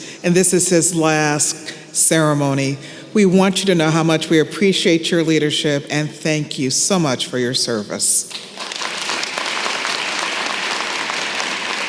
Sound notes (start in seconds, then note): 8.3 applause